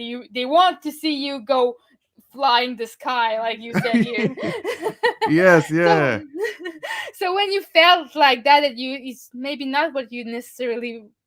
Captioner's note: laughing